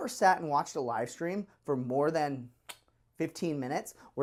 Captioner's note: mouth click